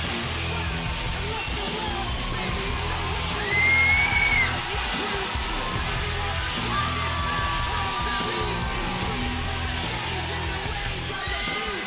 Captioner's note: crowd cheering